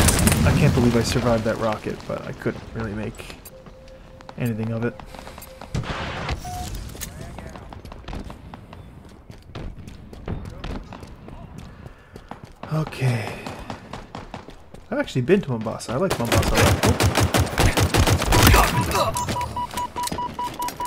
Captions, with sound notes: I can't believe I survived that rocket, but I couldn't really make anything of it. (sigh) Okay. I've actually been to Mombasa. I like Mombasa a lot--oop!